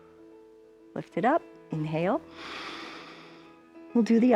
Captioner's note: inhales